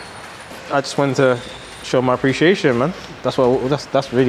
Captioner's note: stutters